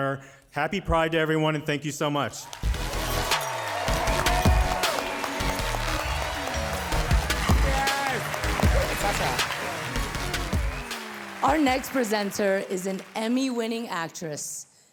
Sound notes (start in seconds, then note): 2.4 audience cheering; 2.6 cheerful music